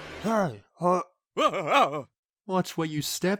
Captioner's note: oj stammers